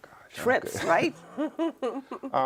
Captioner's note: laughs